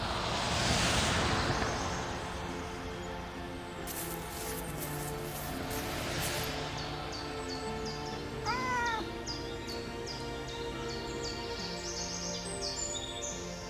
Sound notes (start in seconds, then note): 0.0 road traffic; 8.4 cat meows